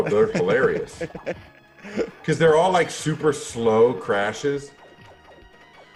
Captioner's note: laughs